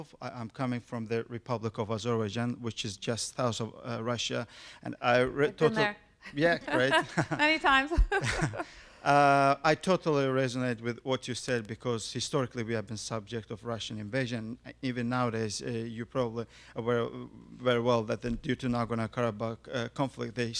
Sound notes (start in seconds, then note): 6.4 laughs